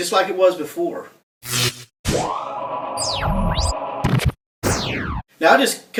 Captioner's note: futuristic shock bang